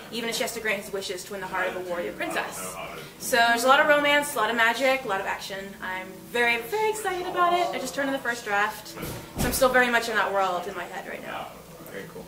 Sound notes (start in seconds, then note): none